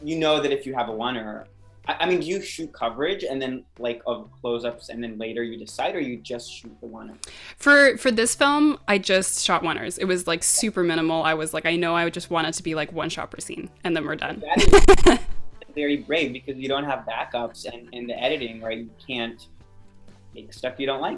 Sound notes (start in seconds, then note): 14.6 laughs